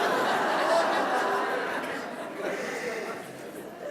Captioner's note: laughter